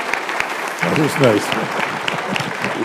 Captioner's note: applause